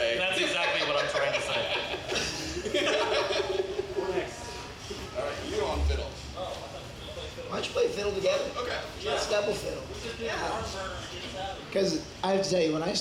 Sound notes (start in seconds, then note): 0.2 laughs; 2.2 both laugh